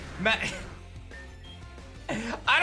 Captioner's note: giggles